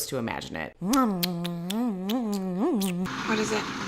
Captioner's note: kissing sounds